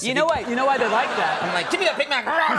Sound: audience Laughing

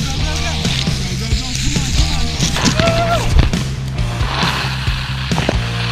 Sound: rock music; wheels spinning along track

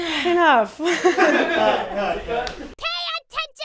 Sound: laugh

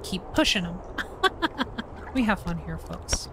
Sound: fake Laughter

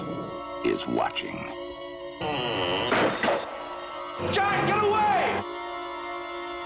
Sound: creaking

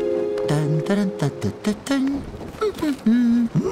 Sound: Hank humming happily

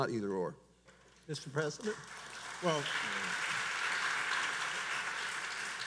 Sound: audience applauds

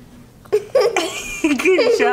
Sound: giggling

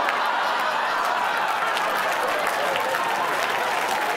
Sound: audience applause

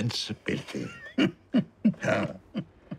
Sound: laughs

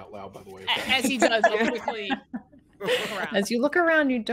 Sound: laughter

